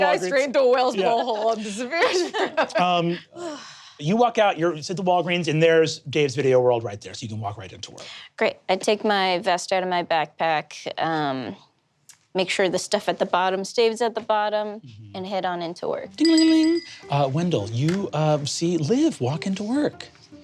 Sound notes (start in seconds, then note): 16.2 mimics bell ringing